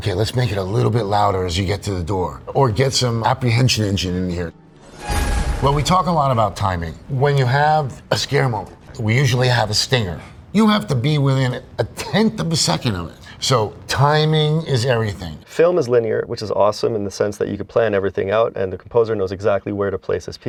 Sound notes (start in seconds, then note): 4.5 startling sound